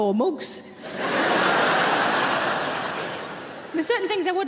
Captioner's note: audience laughing